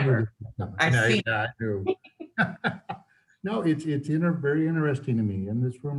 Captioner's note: laughs